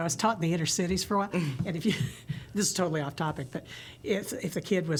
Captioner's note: laughter